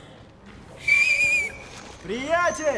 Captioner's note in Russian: свист